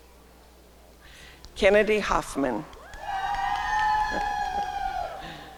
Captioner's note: applause and cheering